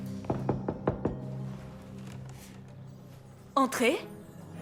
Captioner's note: door knocking